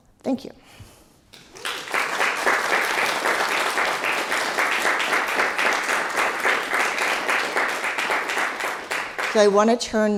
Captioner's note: applause